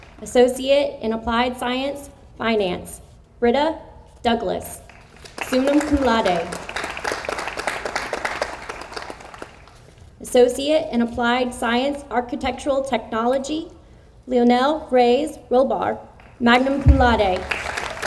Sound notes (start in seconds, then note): 7.0 audience applauds; 17.0 audience applauds